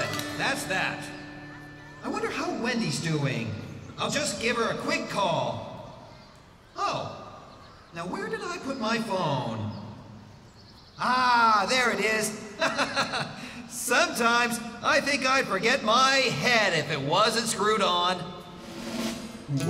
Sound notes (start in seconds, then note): 12.5 chuckling